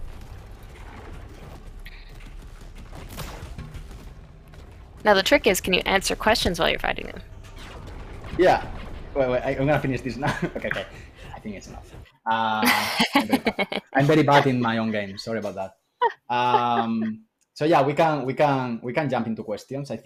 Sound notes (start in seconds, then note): 2.0 laser blasts; 12.6 laughter